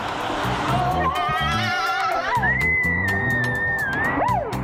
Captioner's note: screaming